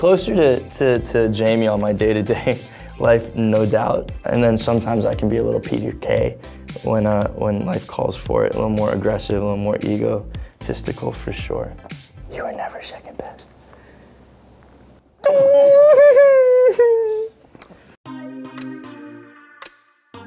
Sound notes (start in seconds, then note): 15.2 crying; 18.0 upbeat music